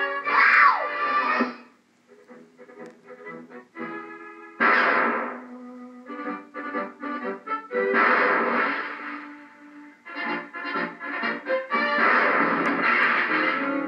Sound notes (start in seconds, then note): 4.6 bang; 7.9 bang; 8.5 splash; 11.9 crashes; 12.0 bang